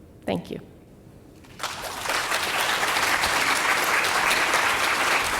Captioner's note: audience applauding